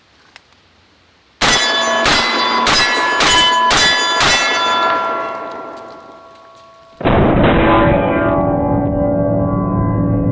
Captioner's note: gunshots